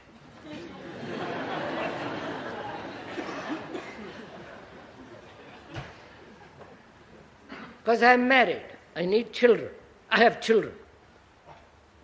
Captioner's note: laughter